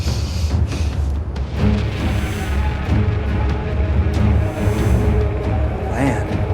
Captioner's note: sharp inhale